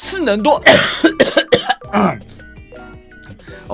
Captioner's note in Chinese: 咳咳咳